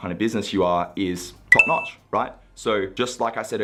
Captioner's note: beep